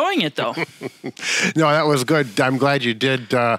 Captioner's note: laughing